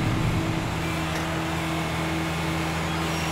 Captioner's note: Machinery Humming